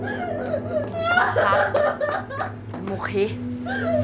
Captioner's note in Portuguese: Choro compulsivo